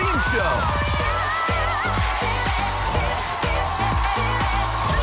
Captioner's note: audience cheering